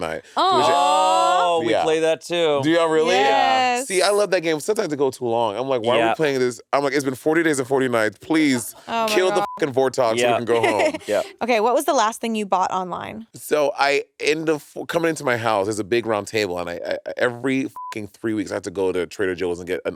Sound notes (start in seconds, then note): 9.1 beep; 10.2 laughing; 17.7 beep